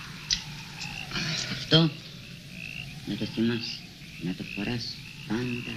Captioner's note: muttering in foreign language